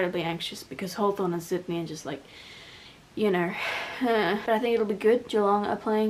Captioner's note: worried noise